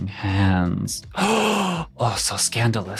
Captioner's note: gasping